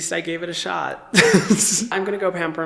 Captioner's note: chuckling